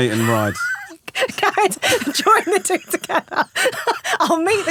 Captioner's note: laughing